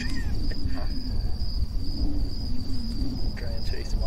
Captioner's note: man laughing